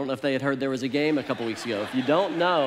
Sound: congregation laughs

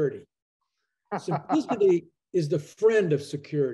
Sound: laughs

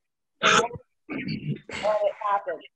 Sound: clearing throat

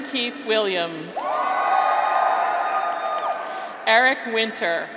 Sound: graduates cheer

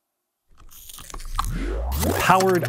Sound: squeak, squeak

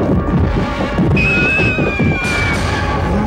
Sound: screams

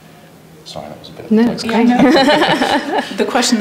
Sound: laughs

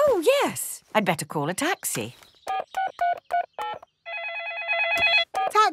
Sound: phone ringing; dialing

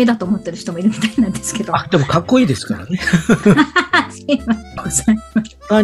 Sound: laughter

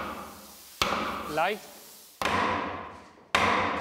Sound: slap

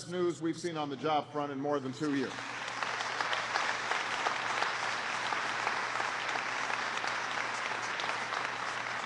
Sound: applause

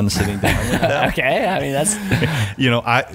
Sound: laughing

